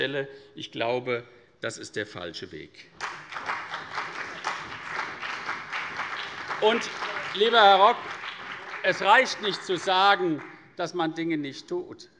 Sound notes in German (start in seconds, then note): 3.0 Beifall CDU und BÜNDNIS 90/DIE GRÜNEN